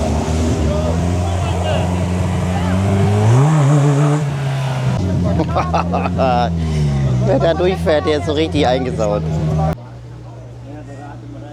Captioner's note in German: gelächter